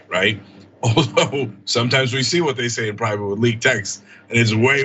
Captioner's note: laugh